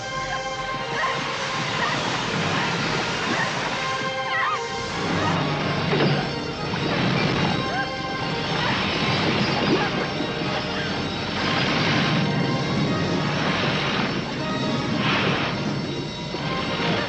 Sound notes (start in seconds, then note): 0.1 intense music; 8.4 loud rumbling